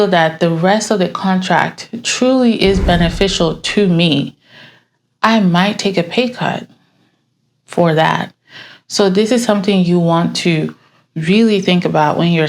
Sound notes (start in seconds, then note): none